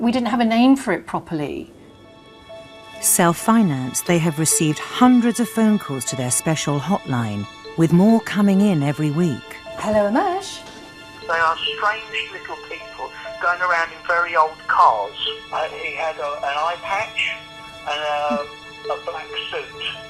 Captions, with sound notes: we didn't have a name for it properly. - [Voiceover] Self-financed, they have received hundreds of phone calls to their special hotline, with more coming in every week. - Hello AMMACH. - [Voiceover] There are strange little people going around in very old cars. And he had an eye patch and a black suit.